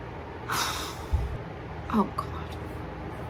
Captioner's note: deep sigh